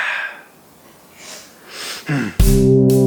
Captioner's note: sniffs and breathes out heavily; sniffs; upbeat music